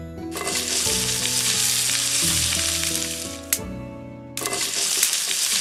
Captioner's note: sizzle… spark!